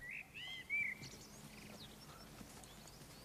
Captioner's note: birdsong